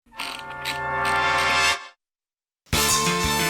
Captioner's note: wheel clicks